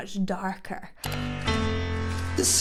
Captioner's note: mouse clicks